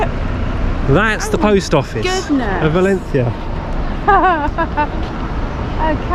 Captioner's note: laughs